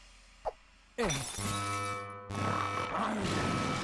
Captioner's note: beeping